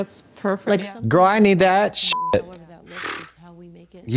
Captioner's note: beep